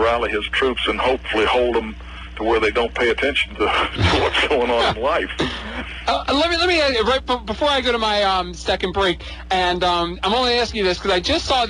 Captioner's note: laughs